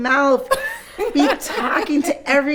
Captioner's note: all laughing